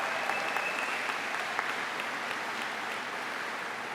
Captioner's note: applause